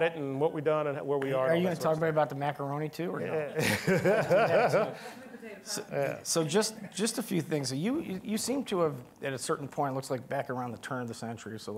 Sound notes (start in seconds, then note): 3.4 all laughing; 4.0 woman speaking faintly